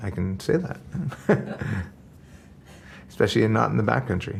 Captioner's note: laughing